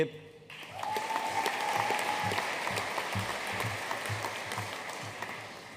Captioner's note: audience cheering and applauding